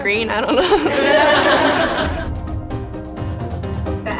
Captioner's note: laughing; drums